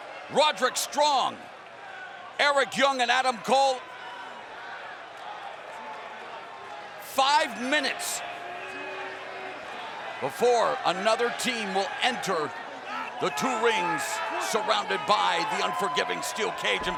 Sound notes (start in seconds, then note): 4.5 fans chattering